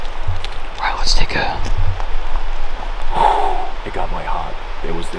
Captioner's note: breathes